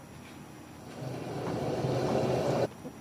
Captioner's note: rain and thunder